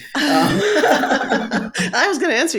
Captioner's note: both laughing